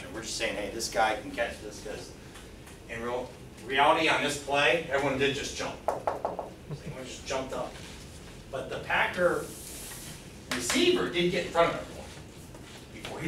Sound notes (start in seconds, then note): 5.9 fingers tapping